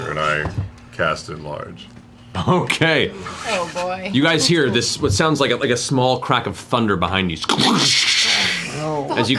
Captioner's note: thunder crack sound